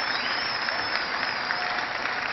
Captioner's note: cheering